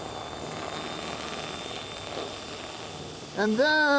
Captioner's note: Sand-O-Flex whirring